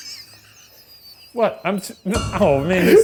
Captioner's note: laughing